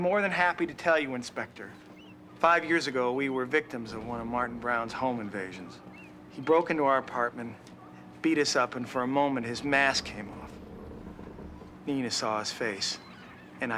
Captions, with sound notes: You know that fishing boat you always wanted? The answer is still no. (sighs) You know, with this whole El Niñothing, man, the tuna are swimming right off the Golden Gate. Next I'm gonna get the boat ad with the circle around it, right?